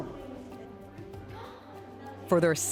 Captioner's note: children talking